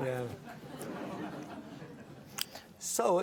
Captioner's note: audience laughing